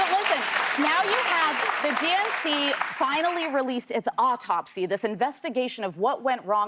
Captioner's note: applause